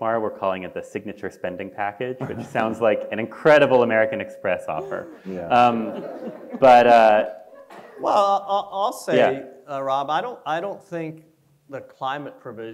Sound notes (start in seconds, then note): 4.8 audience laughs